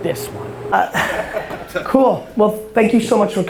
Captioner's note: laughing